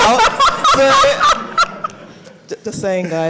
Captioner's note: all laugh